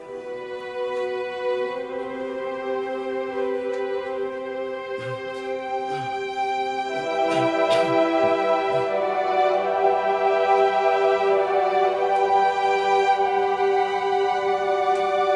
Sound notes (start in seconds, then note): 1.8 inspirational music playing; 5.9 Samuel groaning